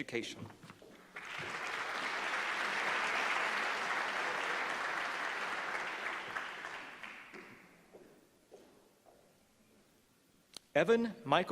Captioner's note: applause